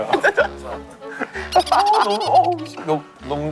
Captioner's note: laughing